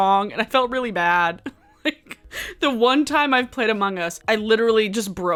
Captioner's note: laughs